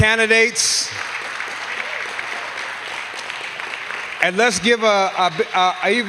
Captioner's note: applause